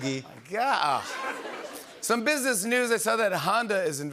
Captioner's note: laughter